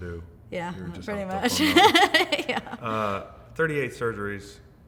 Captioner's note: laughs